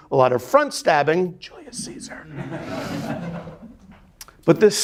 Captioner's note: students laughing